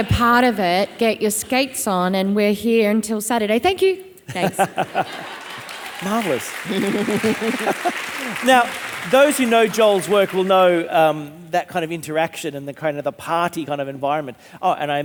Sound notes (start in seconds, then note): 4.3 audience laughing; 6.4 audience applauding